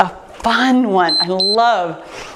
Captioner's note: timer beeps